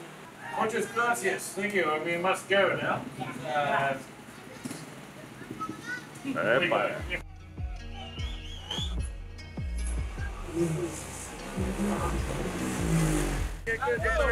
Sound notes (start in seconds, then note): 7.0 hip-hop beat; 10.0 motorbike engine